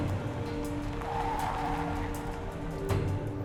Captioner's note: tire squeal